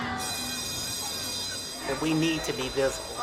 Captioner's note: bell ringing